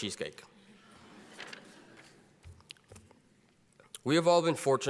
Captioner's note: audience laughs quietly